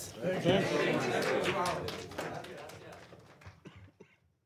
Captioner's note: applause